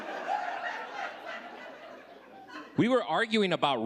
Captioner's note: audience laughing